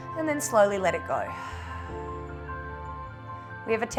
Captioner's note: exhales